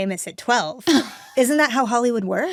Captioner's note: Anna laughs